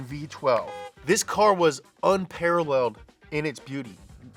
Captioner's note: car hoots